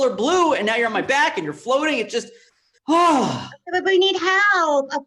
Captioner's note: sighs